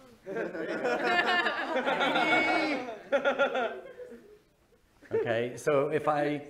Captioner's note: laughing